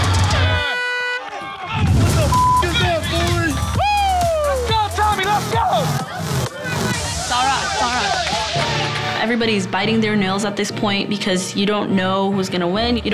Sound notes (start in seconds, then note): 0.4 air horn blows; 2.2 beep; 2.7 man yells